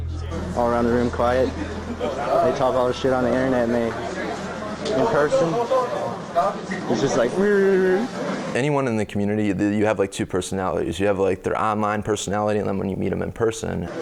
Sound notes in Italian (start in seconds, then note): 7.5 verso sarcastico